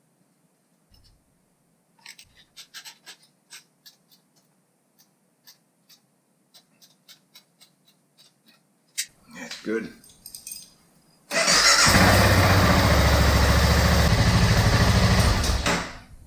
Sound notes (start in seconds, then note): 11.7 engine running